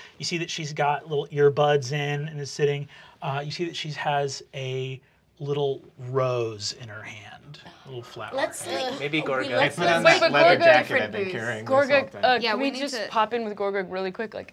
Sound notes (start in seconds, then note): none